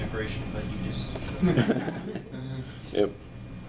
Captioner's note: laughs